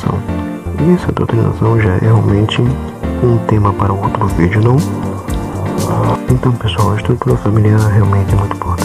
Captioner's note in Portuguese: Moto Passando